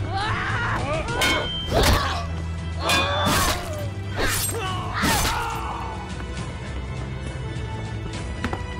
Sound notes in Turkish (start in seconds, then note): 0.5 Kılıç sesi